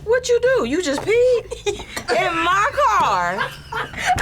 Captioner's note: laughs; React laughs